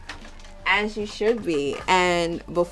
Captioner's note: albums rustling